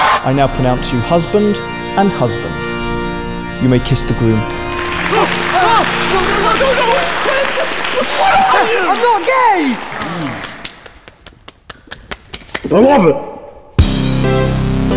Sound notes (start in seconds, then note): 4.9 both yell in horror